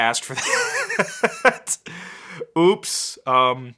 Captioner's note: laughing